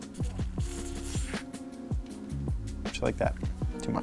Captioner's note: foam squelching